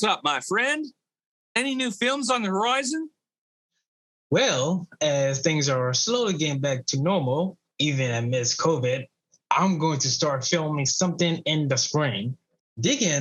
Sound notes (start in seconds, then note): none